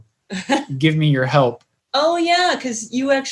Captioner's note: laughing